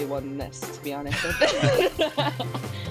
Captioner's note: laughs